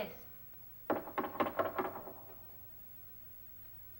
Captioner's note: hollow knocking